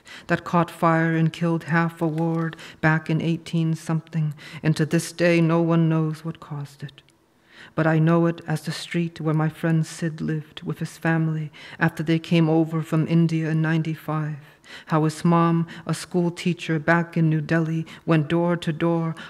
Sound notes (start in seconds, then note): none